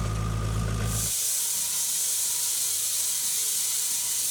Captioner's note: saw whirring